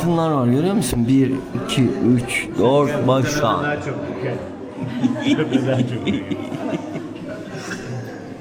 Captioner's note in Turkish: kahkaha